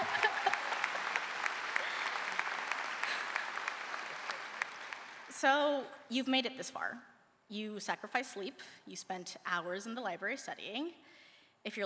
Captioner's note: cheers and applause